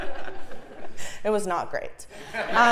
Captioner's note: laugh